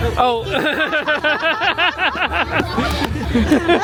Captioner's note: laughing